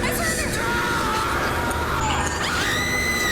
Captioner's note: screams